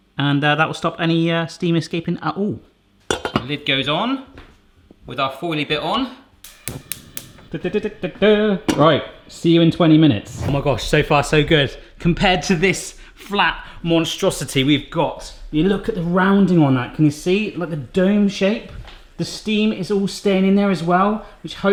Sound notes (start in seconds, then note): 3.1 lid clangs; 6.4 stove top clicking; 10.2 air whooshing